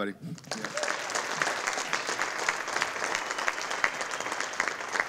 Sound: audience applauding

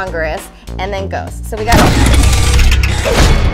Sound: door bangs open

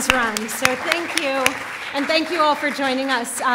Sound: applauding

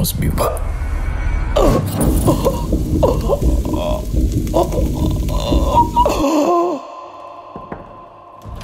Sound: gasps in Agony

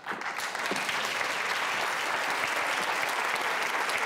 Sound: audience clapping

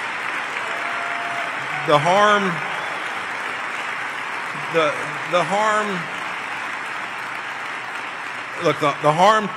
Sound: applause and cheers

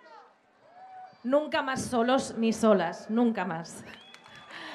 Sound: speaking Spanish

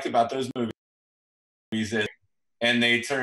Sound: audio cuts out

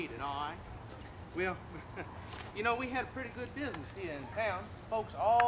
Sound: laughter

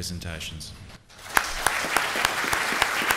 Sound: applause

